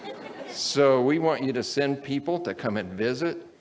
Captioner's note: audience laughs